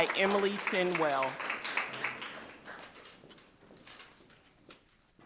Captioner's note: people clapping